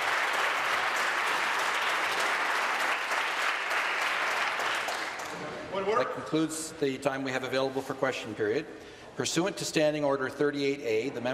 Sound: applause

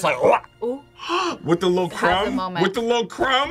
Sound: gasps

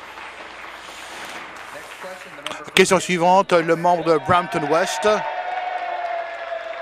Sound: applause

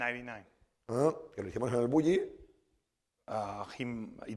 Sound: speaking spanish

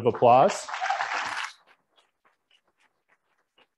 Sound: applauding

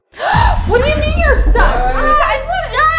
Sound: gasping

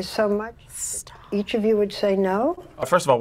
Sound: whispers

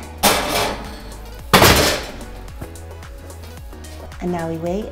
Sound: oven door slams

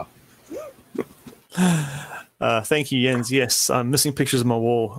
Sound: laughing

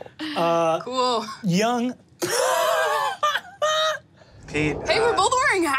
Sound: laughs

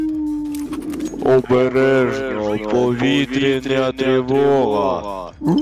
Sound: in Ukranian

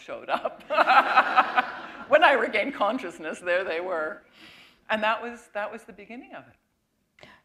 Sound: chuckle

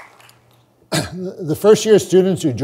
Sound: clears throat

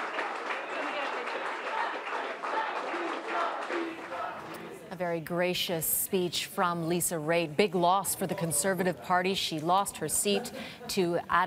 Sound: applause

